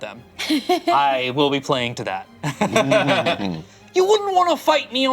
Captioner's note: laughs